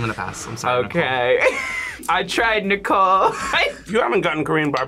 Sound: laughs

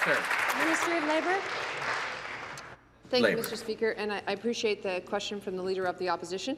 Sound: applause

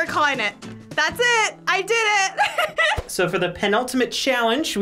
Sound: giggles

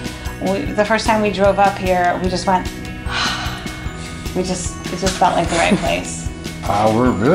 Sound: sigh of relief

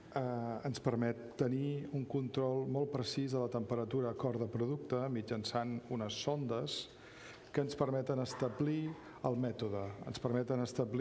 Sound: speaking catalan

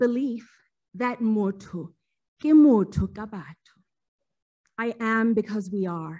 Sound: speaking foreign language

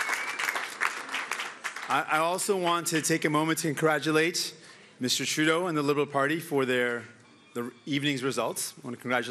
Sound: cheering

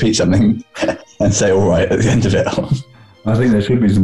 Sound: giggling

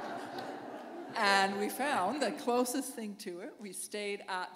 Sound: laughter

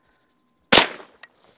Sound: bang

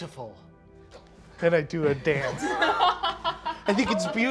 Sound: all laughing

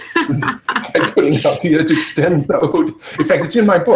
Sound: all laugh

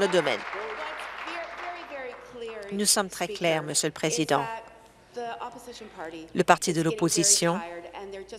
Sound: applause

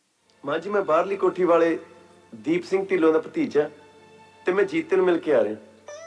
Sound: non-English male speaker

